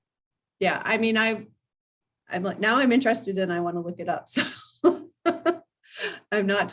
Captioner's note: laugh